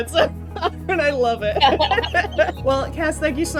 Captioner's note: laughs; Cassandra laughs